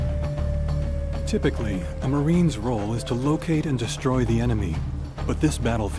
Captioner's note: voiceover